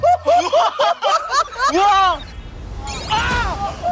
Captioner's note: commotion